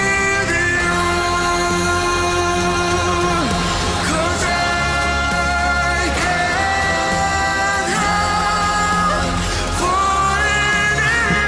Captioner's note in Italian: Applauso